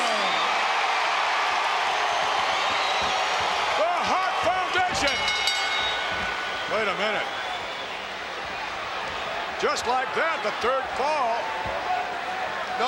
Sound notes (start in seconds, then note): 0.1 audience cheering; 4.8 bell rings